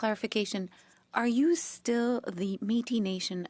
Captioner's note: speaking French